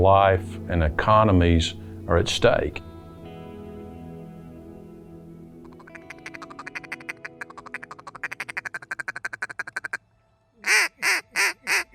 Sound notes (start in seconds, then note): 5.7 duck call